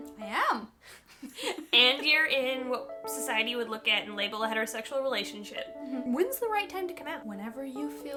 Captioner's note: both laughing